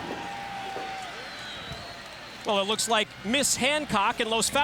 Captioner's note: crowd cheering